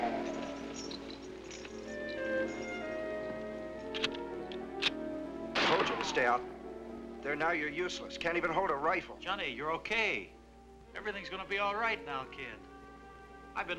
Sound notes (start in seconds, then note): 3.8 gun clicking; 5.5 guns firing